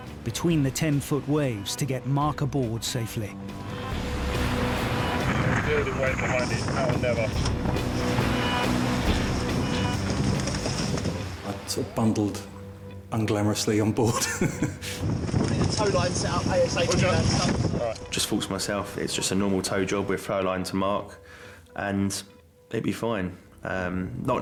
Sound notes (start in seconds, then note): 8.3 thrilling music; 14.0 chuckling